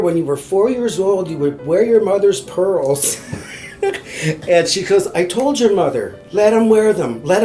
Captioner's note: laughs